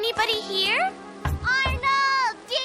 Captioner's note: knocking